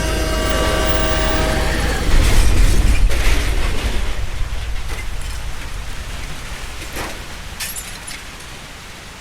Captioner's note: honking; rain; the noises of a crash; breaking glass; thunder rolls